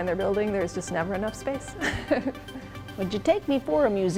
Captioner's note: laughs